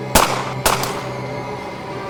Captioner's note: gunshot